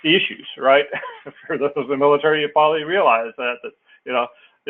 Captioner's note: laugh